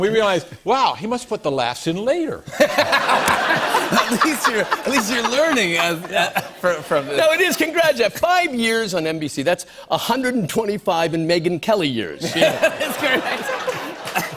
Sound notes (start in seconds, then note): 2.4 laughter